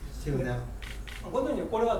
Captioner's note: shuttering; speaking in foreign language